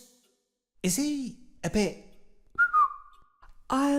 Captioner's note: whistles